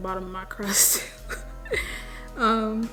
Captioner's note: laughs